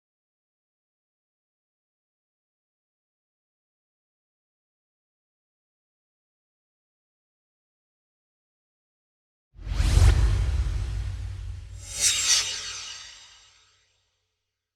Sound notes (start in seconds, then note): 9.6 swoosh